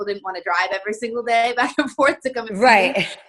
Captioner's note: chuckling